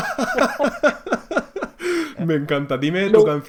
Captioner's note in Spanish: risas